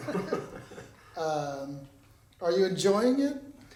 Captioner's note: both chuckling